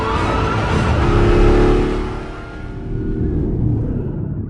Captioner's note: engine revving; sirens blaring; dramatic music